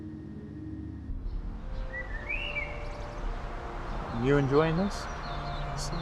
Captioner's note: gentle music; birds chirping